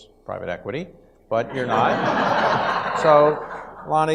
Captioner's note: audience laughs